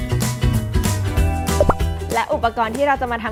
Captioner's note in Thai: เสียงเอฟเฟกต์